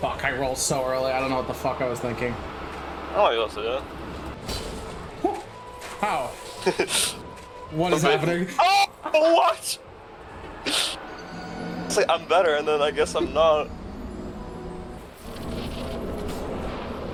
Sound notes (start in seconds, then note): 6.6 laughs